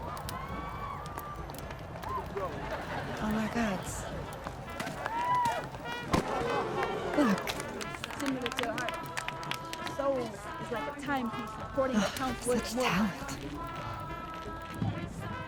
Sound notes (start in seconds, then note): 10.0 woman reciting poetry; 11.9 sighs